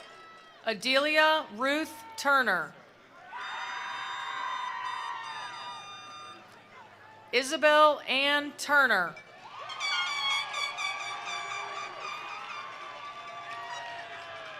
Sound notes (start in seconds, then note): 0.0 attendees applauding; 0.0 attendees cheering; 3.0 attendees cheering; 3.3 attendees applauding; 9.3 attendees cheering; 9.7 attendees applauding